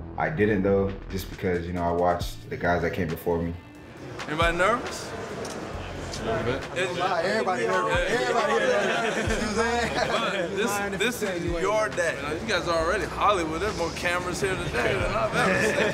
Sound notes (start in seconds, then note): 8.2 everyone laughing